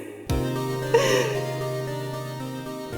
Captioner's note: sobbing